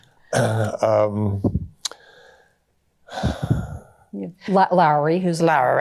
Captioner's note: clears throat